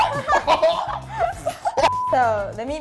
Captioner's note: both laughing